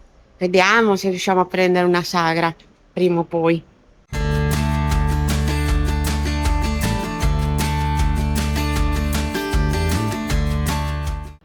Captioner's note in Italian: Applauso